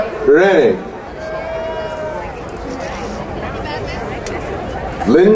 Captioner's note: crowd cheering